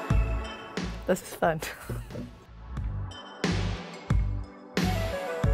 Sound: upbeat music; giggles

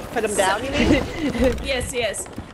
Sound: laugh

